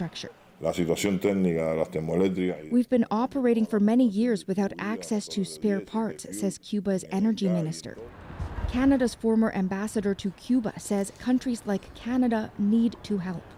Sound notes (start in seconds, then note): 1.9 speaking alternate language